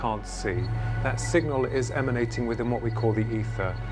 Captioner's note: deep vibrating